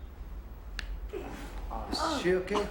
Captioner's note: cracking noise; groans and mumbles